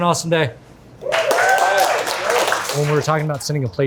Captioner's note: crew cheering; crew applauding